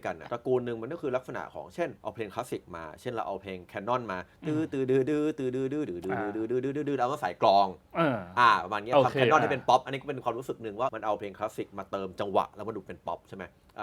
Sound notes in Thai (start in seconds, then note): 4.4 เสียงฮัมให้จังหวะ